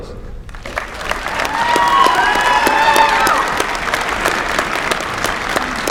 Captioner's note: applause